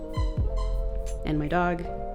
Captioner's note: toy squeaking